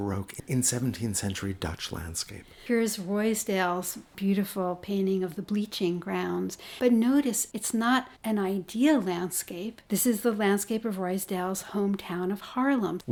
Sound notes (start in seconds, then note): 2.5 voiceover